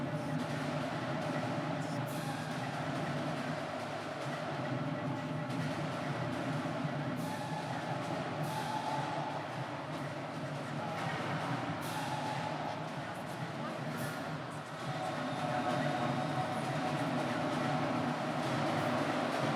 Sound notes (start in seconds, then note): 3.7 marching band drums; 3.7 whistle